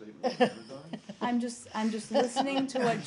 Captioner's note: laughter